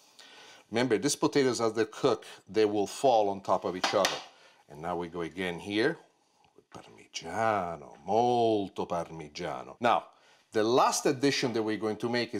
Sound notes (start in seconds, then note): 6.9 speaks in Italian